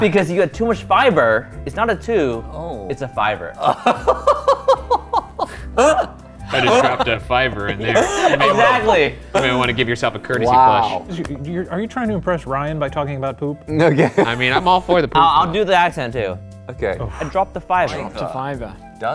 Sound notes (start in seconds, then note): 3.6 laughing